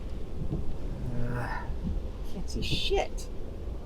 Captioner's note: sighing